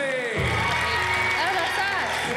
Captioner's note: cheering and applause